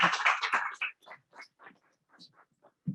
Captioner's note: applause